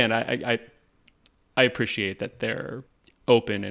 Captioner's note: none